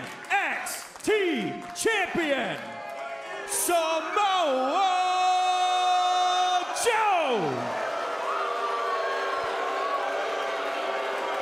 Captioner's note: crowd cheering